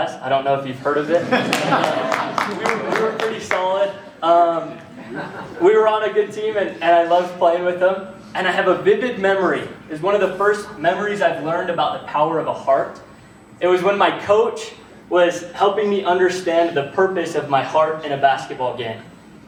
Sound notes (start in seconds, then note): 1.0 laughter; 1.5 clapping